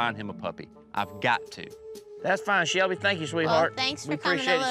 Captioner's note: none